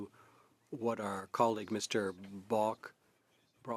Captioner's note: speaking French